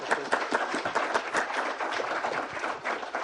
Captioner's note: applause